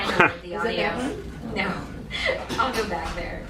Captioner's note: laughing